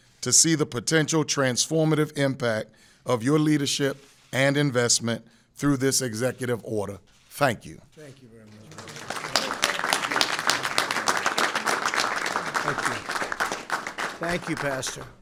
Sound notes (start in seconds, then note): 10.1 applause